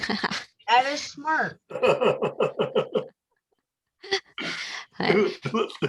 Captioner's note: laughter